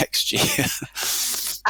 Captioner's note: chuckles